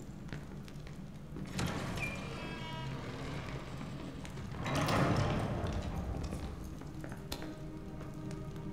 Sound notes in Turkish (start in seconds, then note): 2.1 Kapı kapanma sesi